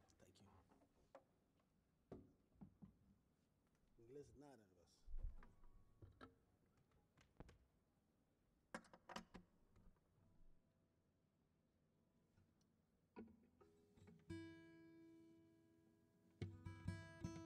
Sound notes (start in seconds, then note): 8.7 sound of cord clicking into place; 14.3 guitar tuning